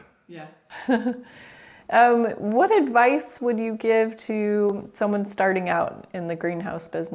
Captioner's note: laughs